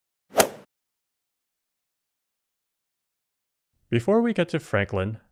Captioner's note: golf swing sound effect